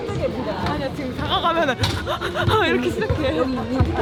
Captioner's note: starting to cry